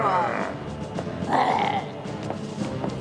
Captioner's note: grunting in disgust; growls